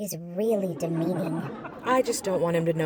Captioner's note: audience laughing